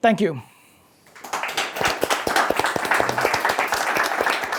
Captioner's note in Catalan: Aplaudiments